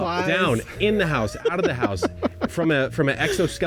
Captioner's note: laughing